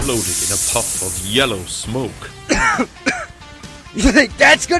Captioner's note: cough